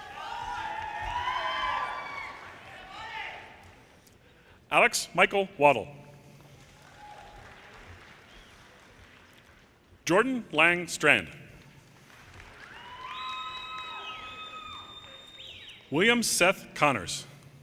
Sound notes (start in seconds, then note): 0.0 audience cheers and applause; 6.6 audience applauding; 12.0 audience cheers and applause